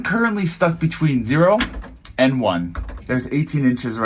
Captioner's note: buttons jiggle